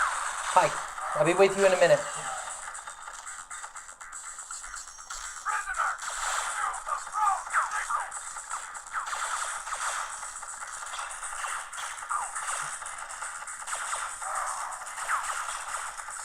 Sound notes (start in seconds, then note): 2.6 more sounds of emulated retro games, which do not stop during upcoming speech